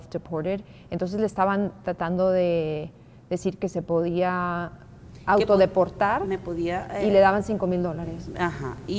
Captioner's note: speaking Spanish